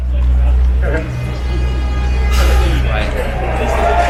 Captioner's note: blaring race horn